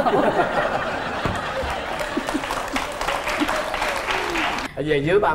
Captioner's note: laughing and applause